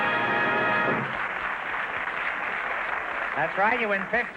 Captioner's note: triumphant music & applause; applause